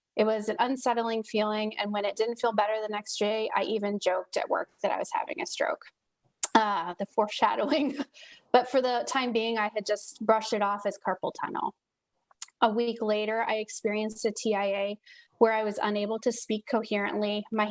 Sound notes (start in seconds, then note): 7.6 laughs